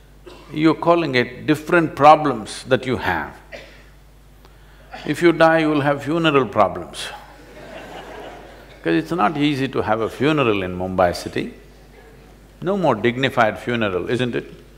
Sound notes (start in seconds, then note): 7.3 laughter